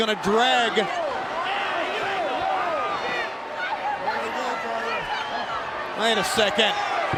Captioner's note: crowd chatter